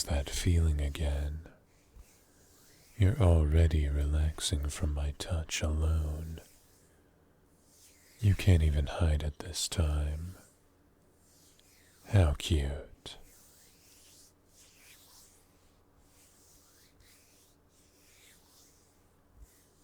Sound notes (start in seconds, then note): 0.0 massage noises; 13.2 hand noises